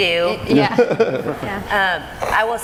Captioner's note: laughing